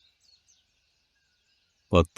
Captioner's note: birds chirping